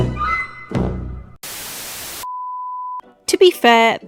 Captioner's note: static